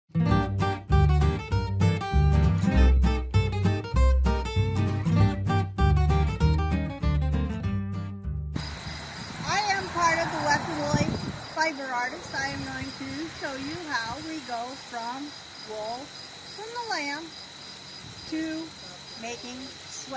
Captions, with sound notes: (upbeat music) (upbeat music) (upbeat music) (crickets chirping) - I am part of the Wet and Wooly Fiber Artists. I am going to show you how we go from wool from the lamb to making sweaters,